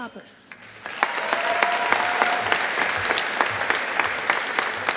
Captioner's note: audience applauding